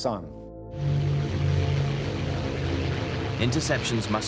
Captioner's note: plane engines roaring